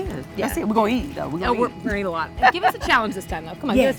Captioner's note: laughs